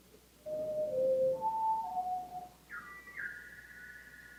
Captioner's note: bird call playing